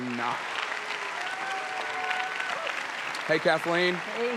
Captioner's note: audience applauds